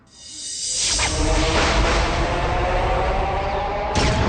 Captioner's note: swirling, thunder